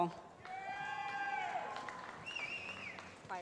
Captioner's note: cheering